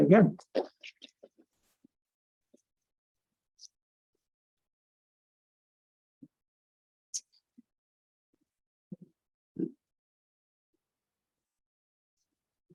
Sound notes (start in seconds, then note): 0.5 microphone noise; 0.5 silence